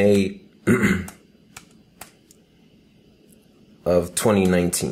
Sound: clearing throat, typing

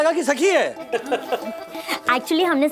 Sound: laughing

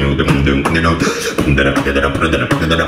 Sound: breaths through the mouth

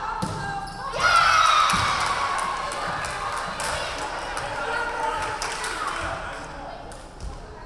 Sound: crowd cheering; referee whistling

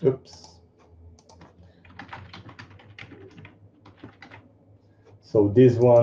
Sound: computer keys clicking

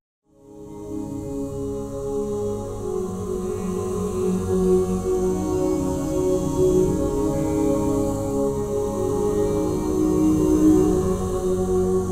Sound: humming

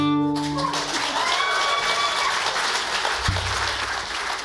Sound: audience applauds

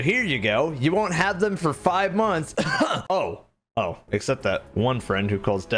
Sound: cough

